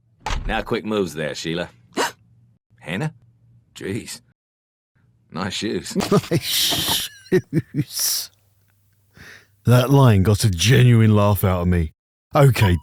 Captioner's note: laughing